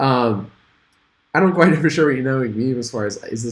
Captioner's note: chuckles